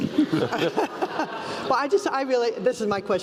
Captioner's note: laugh